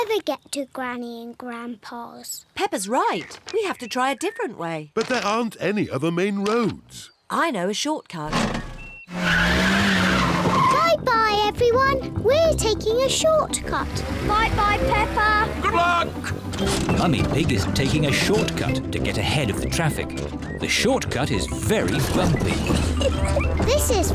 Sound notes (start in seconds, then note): 8.3 tires screech; 22.5 laughs